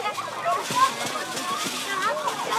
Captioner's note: indistinct children chatter